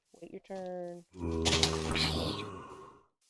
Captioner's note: zombie groans